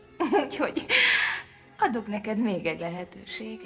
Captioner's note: laughing